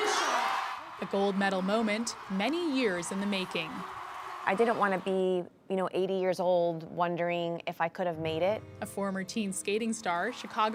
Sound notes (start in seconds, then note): 4.8 cheers and applause